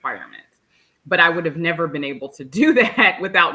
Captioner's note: chuckles